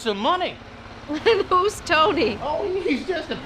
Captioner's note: laughs